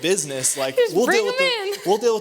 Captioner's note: laughther